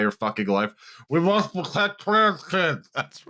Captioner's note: mouth-full voice; laughing